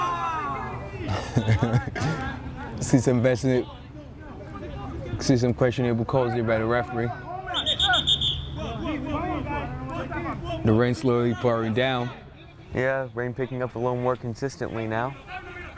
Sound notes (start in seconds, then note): 0.9 laughs; 7.5 whistle